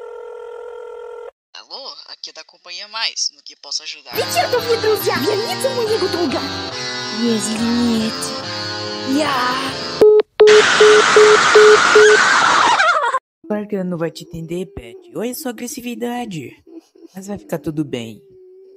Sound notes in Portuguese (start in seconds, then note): 10.0 Paty screams